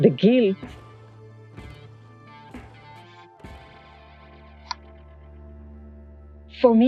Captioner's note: silence